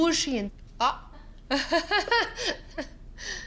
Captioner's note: laughs